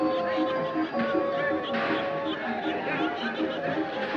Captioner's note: laughing